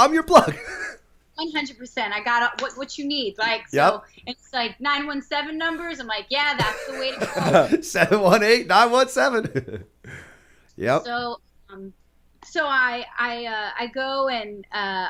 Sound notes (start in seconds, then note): 0.6 chuckle; 9.3 laughter; 9.4 chuckle